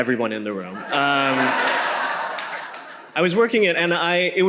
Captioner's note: audience laughing